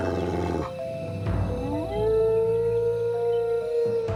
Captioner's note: howling